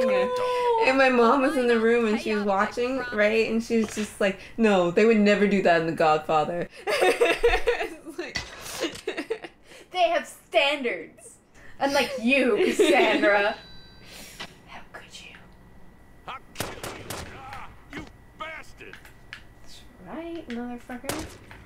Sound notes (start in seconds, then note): 6.7 laughter; 16.1 game audio